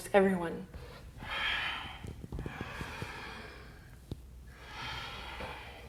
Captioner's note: deep breathing